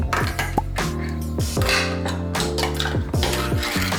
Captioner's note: can opens